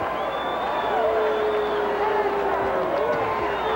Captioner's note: audience cheers